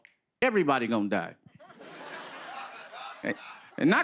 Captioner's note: laughter